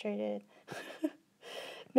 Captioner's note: laughs